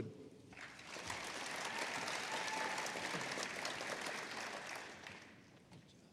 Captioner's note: applause